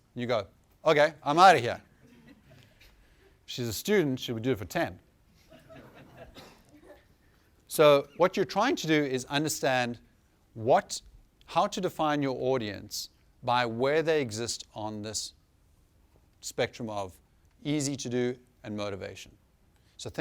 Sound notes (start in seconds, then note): 5.4 laughter